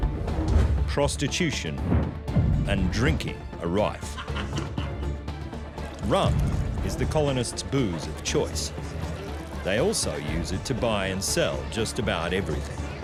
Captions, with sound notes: prostitution and drinking and rife. [man laughing] Rum is the colonists' booze of choice. They also use it to buy and sell just about everything.